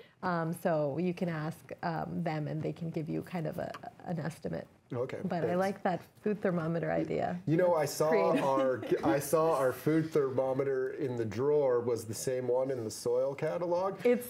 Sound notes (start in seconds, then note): 8.2 laughs